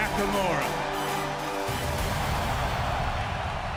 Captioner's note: crowd cheering